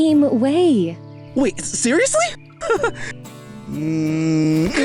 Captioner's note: chuckles